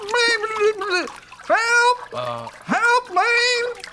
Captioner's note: gurgling